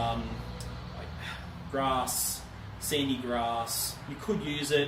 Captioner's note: sighs